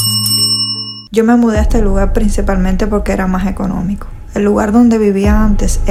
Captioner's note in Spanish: campana